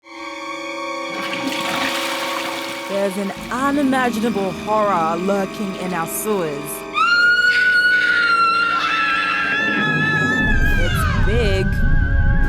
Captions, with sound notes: (DRAMATIC MUSIC) There's an unimaginable horror lurking in our sewers. (SCREAMS) (SCREAMS) It's big.